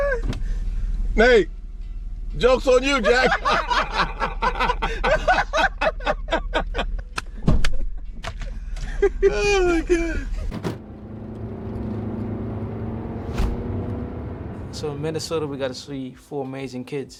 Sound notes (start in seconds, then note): 3.6 laughing; 6.4 clapping; 10.4 car accelerating; 10.4 car doors shut; 12.5 whoosh